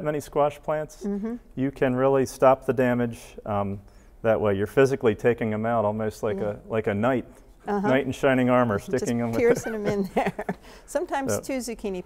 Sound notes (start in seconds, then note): 8.8 laughs